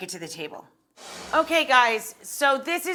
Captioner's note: air whooshing